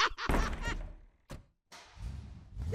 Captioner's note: laughing maniacally; door slams; car door